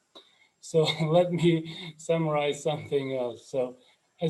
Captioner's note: laughs